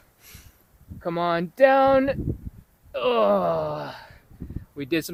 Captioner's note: grunting